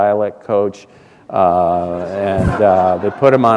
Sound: laughter

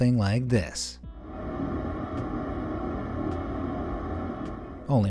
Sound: horn blares

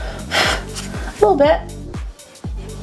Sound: blows

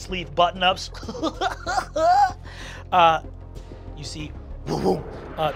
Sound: laughs

